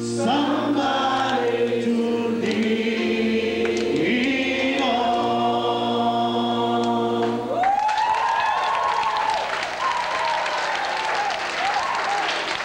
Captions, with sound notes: Somebody to lean on [CHEERING]